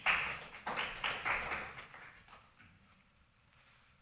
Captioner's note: clapping